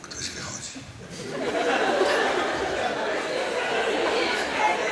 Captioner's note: audience laughs